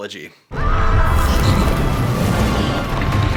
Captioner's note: Conor screams